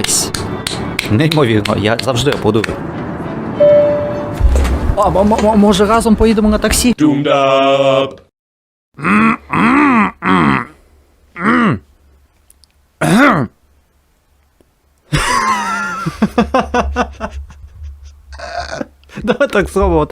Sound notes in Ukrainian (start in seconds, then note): 1.6 аплодує; 3.6 звук сигналу "Відстебніть ремені безпеки"